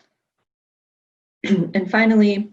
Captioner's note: clears throat